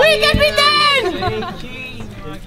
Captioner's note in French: rires